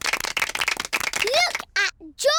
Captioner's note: applause